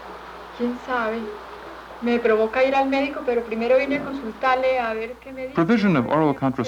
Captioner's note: women conversing in Colombian Spanish